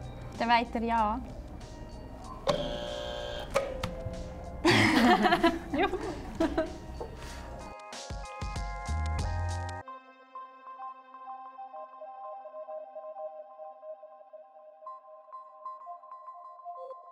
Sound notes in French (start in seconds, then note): 2.4 Buzzer sonne juste